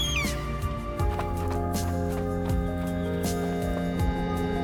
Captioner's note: bird chirps; footsteps thudding; calm music